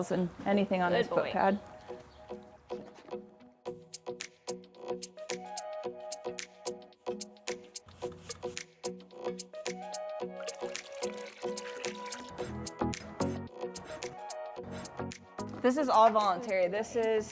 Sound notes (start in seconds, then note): 3.0 pleasant music; 10.4 water running; 13.7 nail scrapping